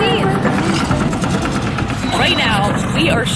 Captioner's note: machinery roaring